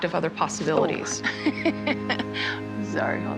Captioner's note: laughs